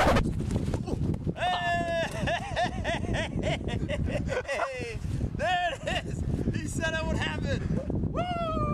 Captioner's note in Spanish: risas y alegría